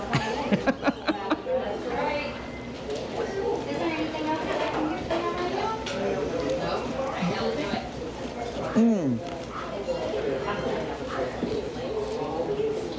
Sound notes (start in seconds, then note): 0.2 laughing; 2.6 people chattering; 9.7 people chattering